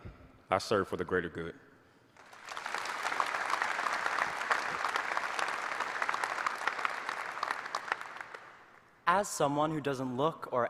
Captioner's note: applause